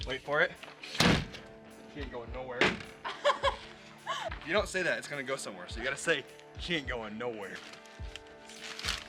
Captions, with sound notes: Wait for it; it ain't going nowhere. (girl laughs) If you don't say that, it's gonna go somewhere. So you gotta say he can't going nowhere.